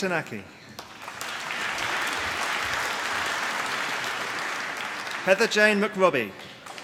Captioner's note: applause